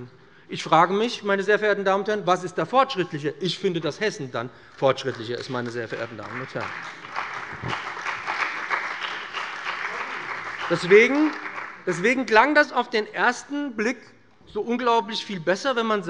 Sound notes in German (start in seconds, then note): 7.1 Beifall bei dem BÜNDNIS 90/DIE GRÜNEN und der CDU